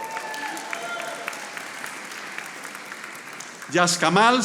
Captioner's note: audience applauding